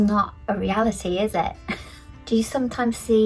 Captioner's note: laughs